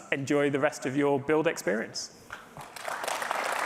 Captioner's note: applause